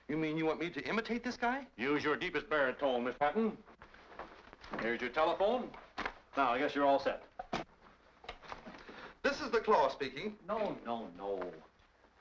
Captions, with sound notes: - You mean you want me to imitate this guy? - Use your deepest baritone, Mr. Patton. Here's your telephone. Now, I guess you're all set. - [Pat] This is The Claw speaking. - No, no, no.